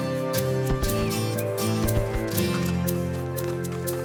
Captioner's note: birds chirping